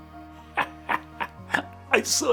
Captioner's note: laughs